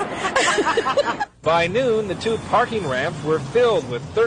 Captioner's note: laughs